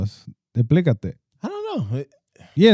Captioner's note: speaking Spanish